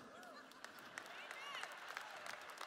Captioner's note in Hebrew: צעקה בקהל; מחיאות כפיים